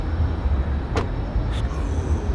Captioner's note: car door thuds